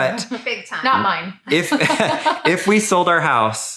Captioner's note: laughing